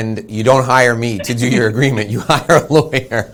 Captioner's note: laughs